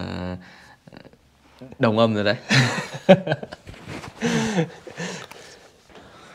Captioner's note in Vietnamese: Tiếng cười